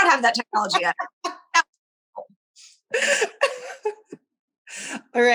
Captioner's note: cheeky laughs